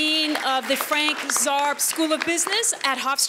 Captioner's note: audience applauds